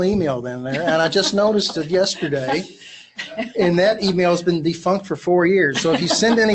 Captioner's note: laughs